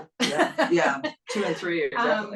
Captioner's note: laugh